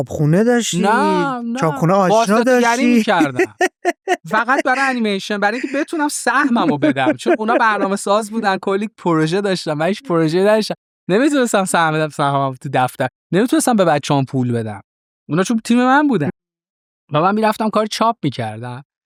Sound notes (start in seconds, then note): 0.4 laughs